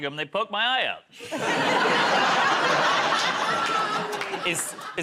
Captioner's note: laughter